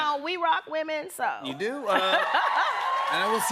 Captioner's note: cheers and applause